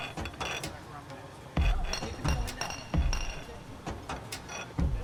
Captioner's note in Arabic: الناس يتحدثون بهدوء